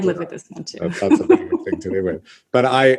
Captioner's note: laughs